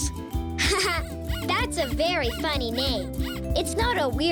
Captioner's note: laughs